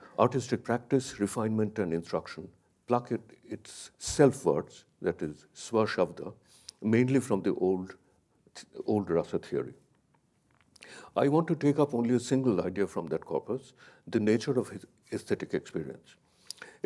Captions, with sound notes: artistic practice, refinement and instruction, block it. Its self words that is (speaks foreign language) mainly from the old Rasa theory. I want to take up only a single idea from that corpus. The nature of aesthetic experience.